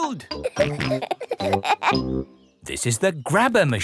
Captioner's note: peppa and george laughing